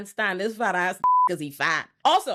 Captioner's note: beep